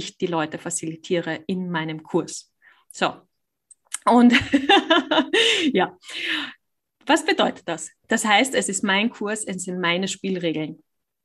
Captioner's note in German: lacht